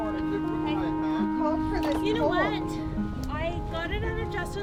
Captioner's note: indistinct chatter continues